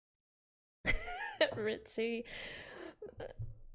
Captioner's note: laughs